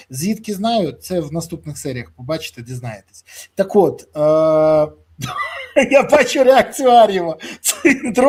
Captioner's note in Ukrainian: сміх